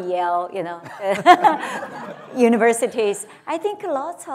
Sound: laughter

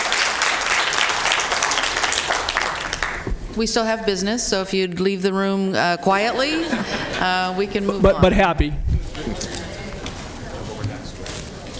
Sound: applause

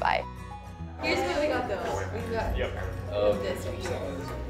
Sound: chatting in background

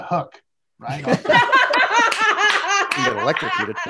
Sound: laughing

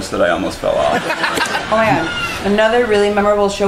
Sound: laughing

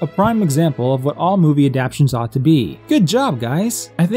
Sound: he says sarcastically

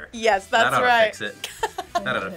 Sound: React laughs

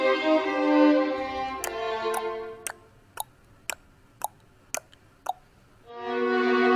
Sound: tick-tock tick-tock tick-tock tick-tock

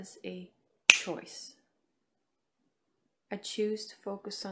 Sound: fingers snapping

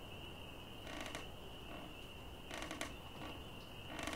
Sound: chair rocking

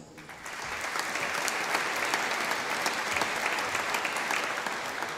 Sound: audience applauding

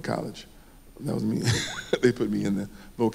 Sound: laughs

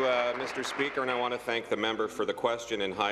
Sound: applause

